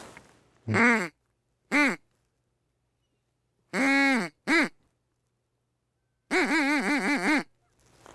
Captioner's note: sounds of a duck call